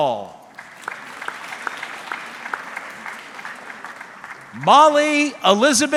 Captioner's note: audience clapping